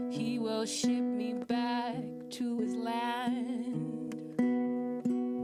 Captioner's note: none